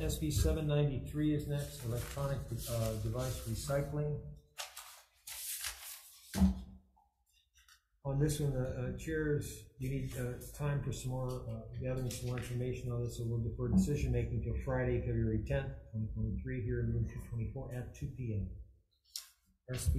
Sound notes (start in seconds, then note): 4.5 papers rustling